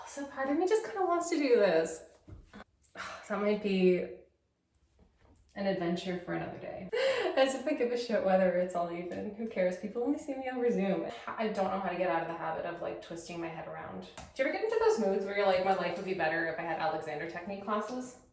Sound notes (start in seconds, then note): 3.0 sigh